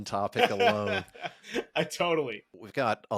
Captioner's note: laughs